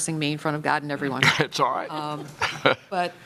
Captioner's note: laughter